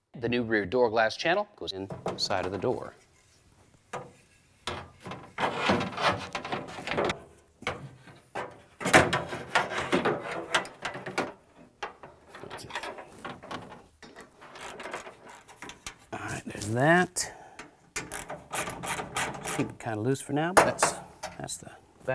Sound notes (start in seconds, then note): 4.1 metal noises